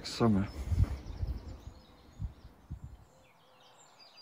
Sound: birds sing

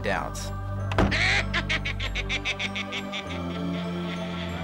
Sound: sinister laugh

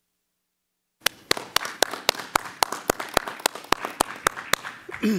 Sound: crowd clapping

